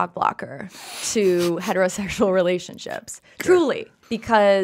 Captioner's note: laughs